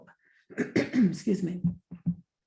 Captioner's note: clears throat